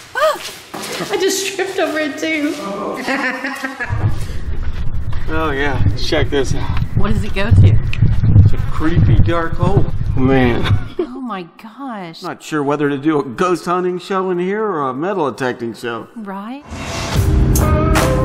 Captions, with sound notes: oooh I just tripped over it too [laughing] [laughing] Blondes forget fast lol oh yeah check this out what does it go to creepy dark hole man omg idk ghost hunting show or metal detecting show